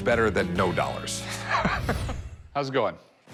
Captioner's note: laughs